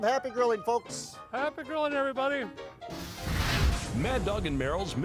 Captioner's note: flames whooshing